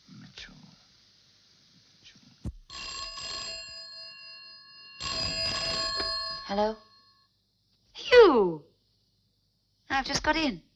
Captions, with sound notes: (phone ringing) - Hello? - Hugh! I've just got in.